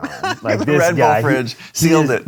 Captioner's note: laughs